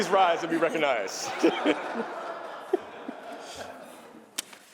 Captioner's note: laughter